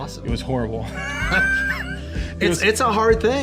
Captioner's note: laughing